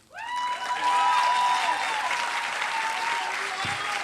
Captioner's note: applause